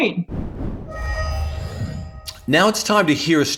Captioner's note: whooshing